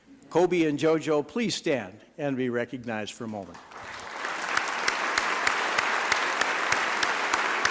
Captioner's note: applause